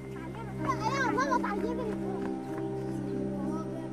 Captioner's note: children chattering